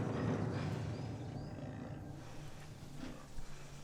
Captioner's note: dragon murmuring quietly